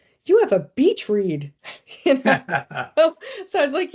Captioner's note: laughing